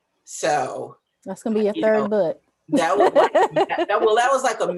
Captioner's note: laughs